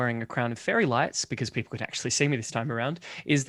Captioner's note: none